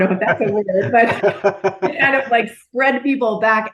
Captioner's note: laughing